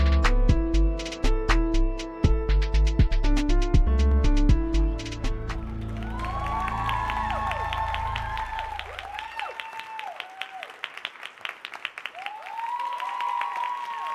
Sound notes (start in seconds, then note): 1.6 tense music continues; 5.6 audience applauding and cheering